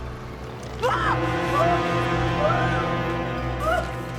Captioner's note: screaming